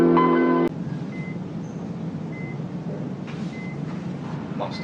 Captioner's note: suspenseful chiming; machine beeping